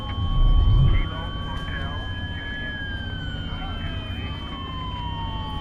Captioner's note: police sirens blaring